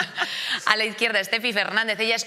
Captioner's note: they laugh